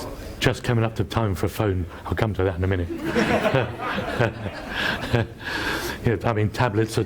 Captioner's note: laughs